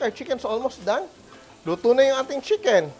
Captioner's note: sizzles